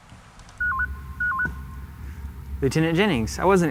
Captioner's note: beeping